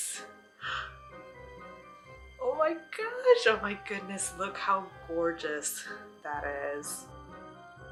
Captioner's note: gasp